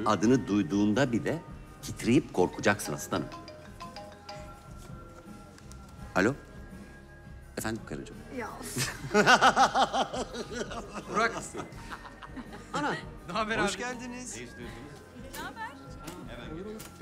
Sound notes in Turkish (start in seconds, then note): 2.6 Telefon çalar